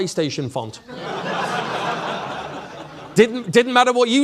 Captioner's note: audience laughing